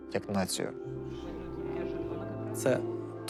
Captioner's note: team chattering